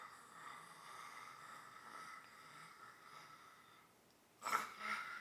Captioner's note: staggered exhaling